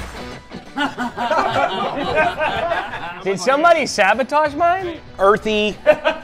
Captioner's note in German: gelächter; lacht